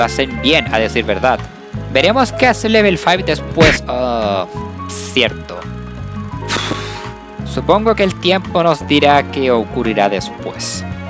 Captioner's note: sigh